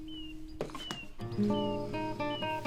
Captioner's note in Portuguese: Impacto de caixa no chão